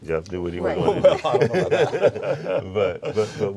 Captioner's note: all laugh